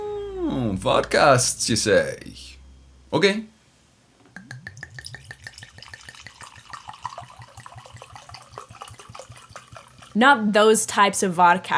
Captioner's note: pouring vodka